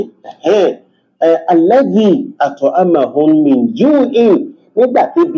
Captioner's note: reciting arabic